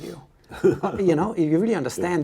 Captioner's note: laughs